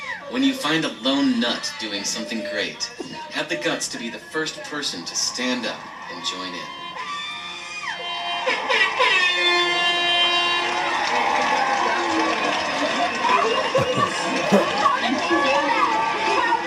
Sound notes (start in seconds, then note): 8.3 horn blowing; 12.1 audience cheering